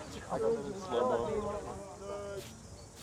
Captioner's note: students chatter